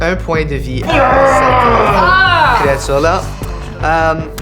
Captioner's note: shouts of frustration